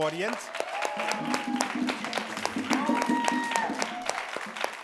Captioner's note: audience claps